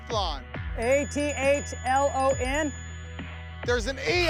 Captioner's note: buzzer sounds